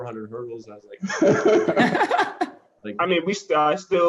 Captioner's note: laughter